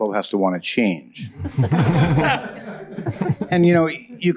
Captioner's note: laughter